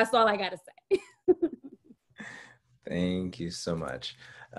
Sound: laughs

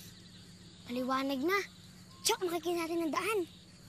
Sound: none

